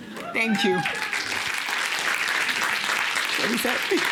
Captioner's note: applause